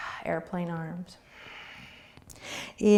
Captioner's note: exhaling